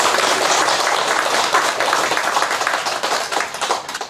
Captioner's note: applause